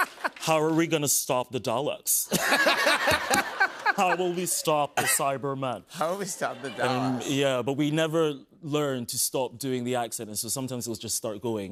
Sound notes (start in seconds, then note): 2.3 laughter; 7.3 normal voice